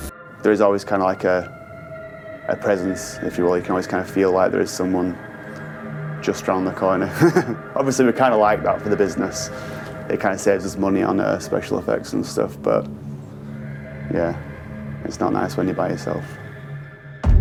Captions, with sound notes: - There's always kind of like a presence, if you will, you can always kinda feel like there's someone just around the corner. (laughs) Obviously we kinda like that for the business. It kind of saves us money on the special effects and stuff, but yeah, it's not nice when you're by yourself.